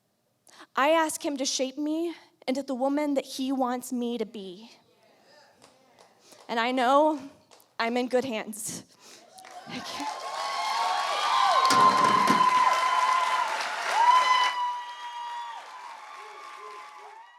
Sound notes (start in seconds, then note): 9.1 applause